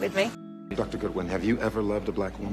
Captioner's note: voiceover